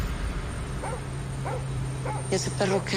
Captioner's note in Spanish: Ladridos